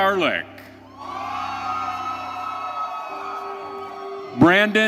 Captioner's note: audience cheering